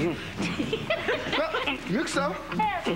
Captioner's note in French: Rires